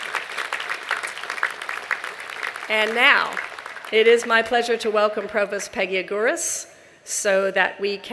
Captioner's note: applause